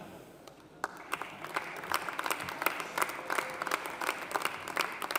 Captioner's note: audience applauding